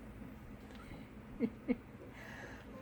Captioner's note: chuckle